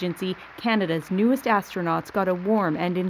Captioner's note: applause